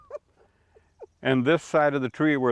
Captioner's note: chuckles